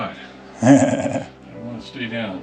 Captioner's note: laughs